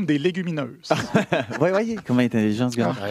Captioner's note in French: rires